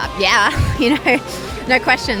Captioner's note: laughs